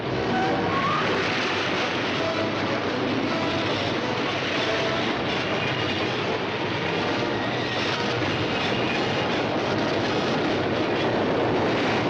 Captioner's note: metal grinding